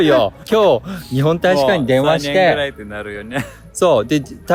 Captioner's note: laughs; laughs